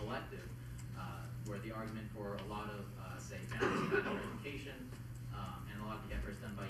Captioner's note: coughing